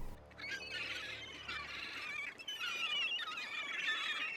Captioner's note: seagulls